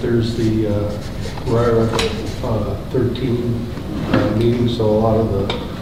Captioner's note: rustling drowns out speaker